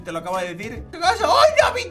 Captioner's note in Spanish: Sorprendido